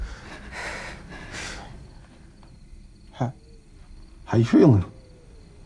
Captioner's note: all breathing nervously